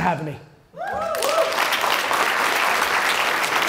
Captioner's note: applause